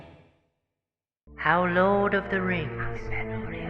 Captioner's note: voice-over; ominous whispering